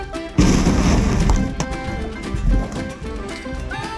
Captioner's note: dragging thud